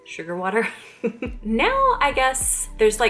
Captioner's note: chuckle